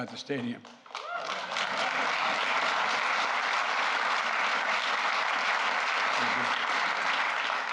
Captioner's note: applause